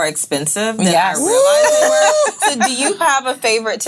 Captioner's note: ladies laughing